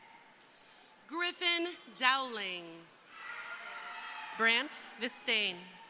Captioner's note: crowd cheering